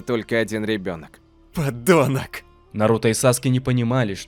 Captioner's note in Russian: Наруто злобно